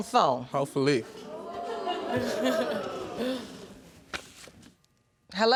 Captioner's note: audience exclaiming